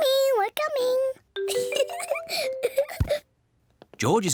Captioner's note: giggles